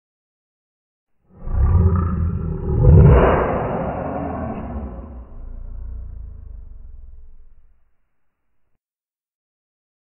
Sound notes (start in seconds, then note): 1.3 monster growl